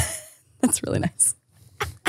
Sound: laughs

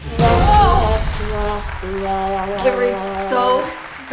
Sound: laughing; sad horn noise

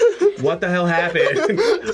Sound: both laugh

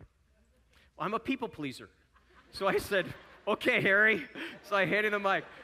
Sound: audience chuckling

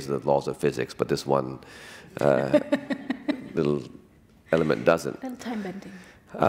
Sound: laughter

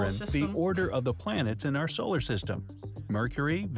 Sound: voice-over

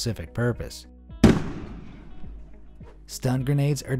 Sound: grenade blasts

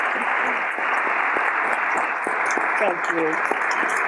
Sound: audience continues to applaud

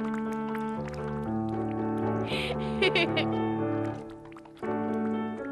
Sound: giggling

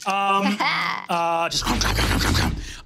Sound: grunting

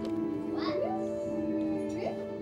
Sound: videotape rattles; child making funny noises

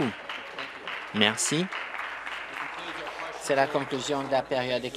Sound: applause

